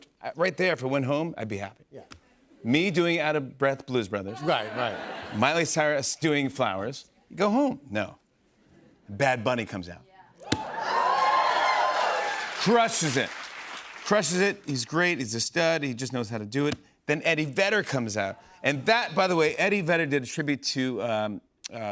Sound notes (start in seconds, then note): 10.5 cheers and applause